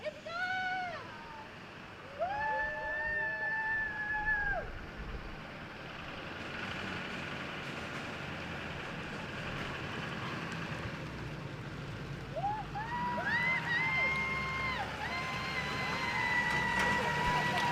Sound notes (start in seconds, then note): 2.0 everyone cheers